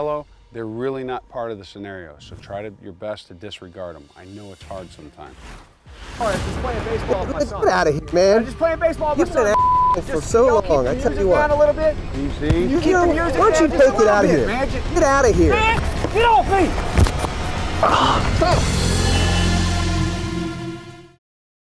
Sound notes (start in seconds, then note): 9.4 beep; 10.0 voiceover; 12.9 angry yells; 17.7 yell; 18.3 rock music; 21.3 cinematic music